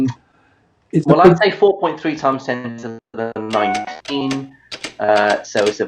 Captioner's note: abacus clicking